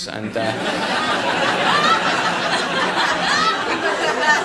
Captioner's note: audience laughing